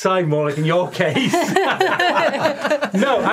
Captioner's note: laughing